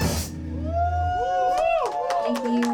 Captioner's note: cheers and applause